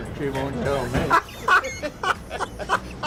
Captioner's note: laughs